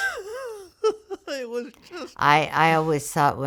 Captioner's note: laughing